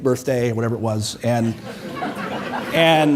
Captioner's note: audience laughing